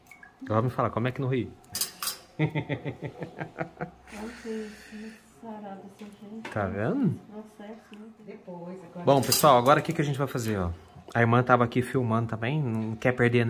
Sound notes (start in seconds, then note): 2.4 laughs